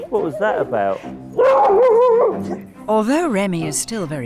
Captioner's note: Remy barking